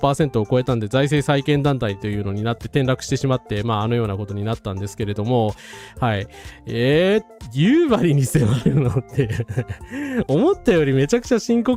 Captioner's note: laughs